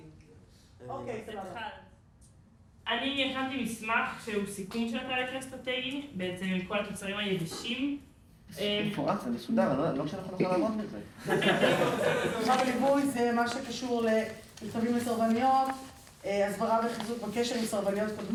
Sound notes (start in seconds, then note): 3.0 speaking foreign language; 9.1 speaking foreign language; 11.2 laughing; 12.4 speaking foreign language